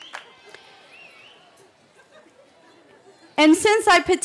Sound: cheering

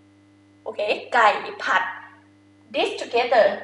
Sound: talking in foreign language

